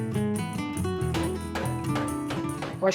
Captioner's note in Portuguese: martelando